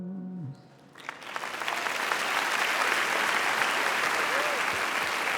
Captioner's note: audience applauding